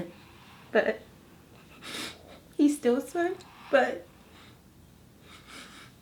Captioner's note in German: Weinen